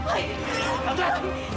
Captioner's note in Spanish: gritos